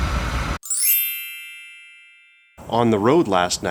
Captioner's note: chimes